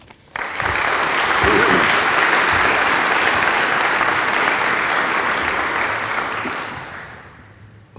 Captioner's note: applause